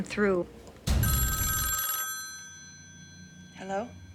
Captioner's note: phone ringing